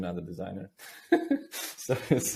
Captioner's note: chuckles softly